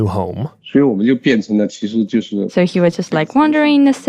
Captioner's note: speaking Mandarin Chinese